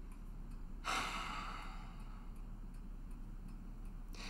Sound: Jake sighs

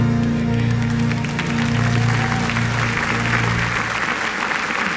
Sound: cheers and applause

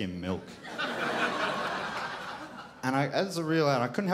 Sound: crowd laughs

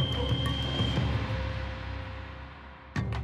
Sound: silbatazo

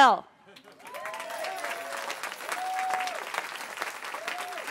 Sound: cheering

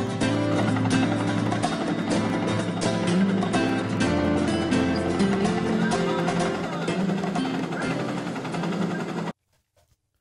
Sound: helicopter whirring

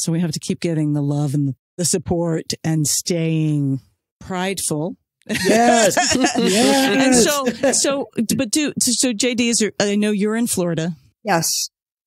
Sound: laughs

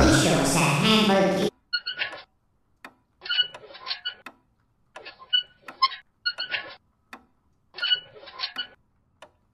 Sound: wheels squeaking

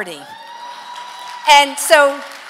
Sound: congregation cheering

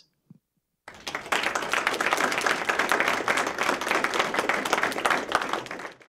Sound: applause

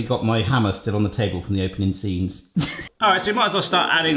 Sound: laughing

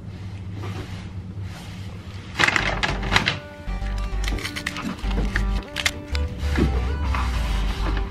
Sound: rustling of paper and electronic music

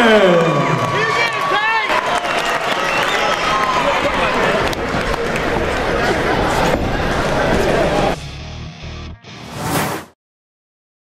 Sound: crowd cheers!!!!!

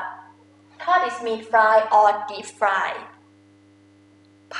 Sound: talking in foreign language

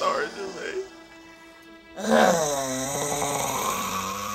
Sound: Jermaine growls

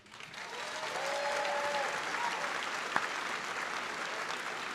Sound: applause

